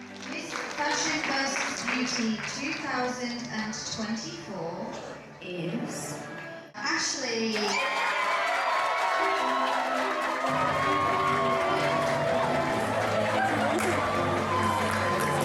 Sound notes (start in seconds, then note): 7.6 light music; 7.6 everyone cheering